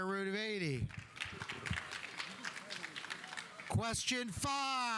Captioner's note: audience applauding